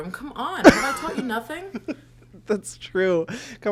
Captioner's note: laughs